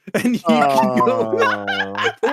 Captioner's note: laughing